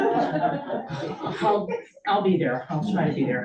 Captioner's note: crowd chuckles